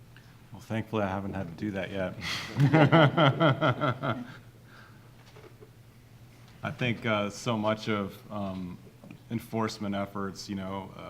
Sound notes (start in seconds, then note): 2.4 all laughing